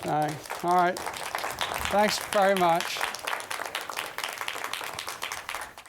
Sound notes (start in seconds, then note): 0.0 applause